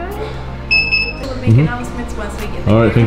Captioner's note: computer beeps